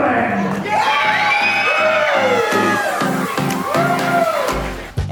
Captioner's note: cheering